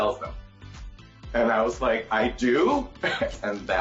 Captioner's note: chuckles